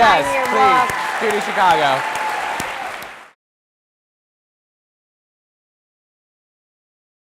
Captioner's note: audience cheering